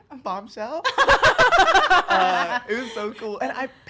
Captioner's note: women laugh